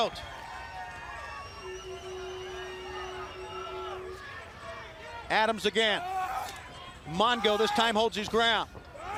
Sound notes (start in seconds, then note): 2.0 crowd chatter